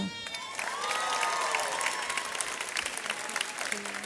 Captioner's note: audience cheers